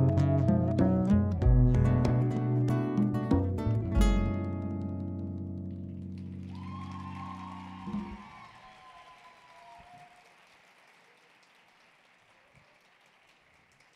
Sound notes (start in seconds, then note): 6.0 audience applauding; 6.3 audience cheering